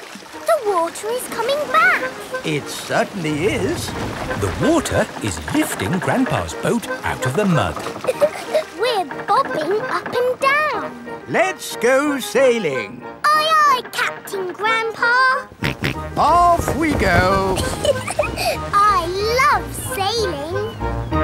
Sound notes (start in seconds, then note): 7.8 chuckles; 15.5 snorts; 17.3 giggles